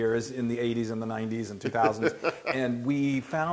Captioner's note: laugh